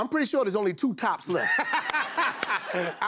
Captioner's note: laughter